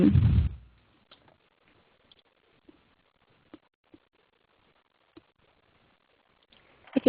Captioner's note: silence